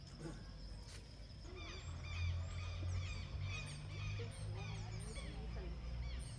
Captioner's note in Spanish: sonido de aves